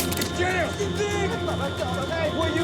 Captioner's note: Fritz speaking in foreign language